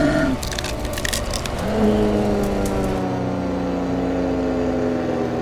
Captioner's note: creature roaring; plane passing